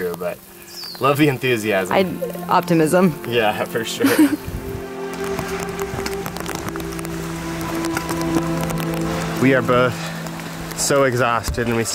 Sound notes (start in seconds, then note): 4.0 both chuckle; 5.0 peaceful music; 5.0 rain falling